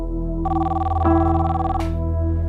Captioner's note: phone ringing